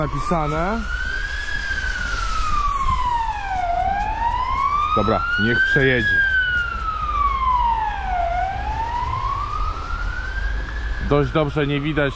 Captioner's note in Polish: ambulans